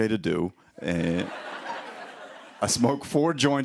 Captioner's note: laughter